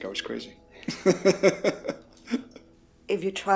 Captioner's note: laughing